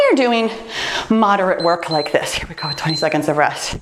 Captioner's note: timer beeps